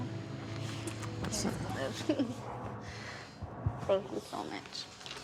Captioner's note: chuckles